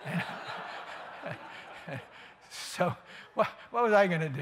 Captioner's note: laughter